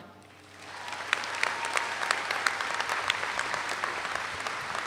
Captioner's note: audience applauds